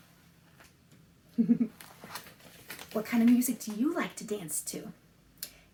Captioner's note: laughs